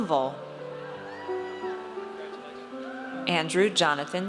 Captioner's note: audience cheers